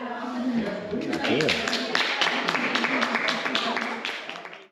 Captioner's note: clapping